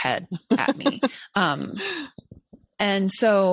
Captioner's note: chuckles